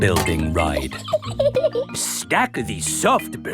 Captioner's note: laughs